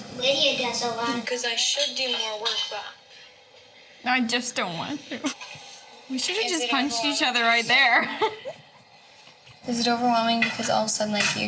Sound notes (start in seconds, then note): 7.9 laughs